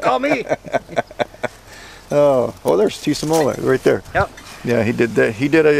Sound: laughter

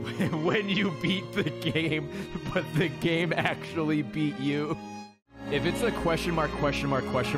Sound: laughs

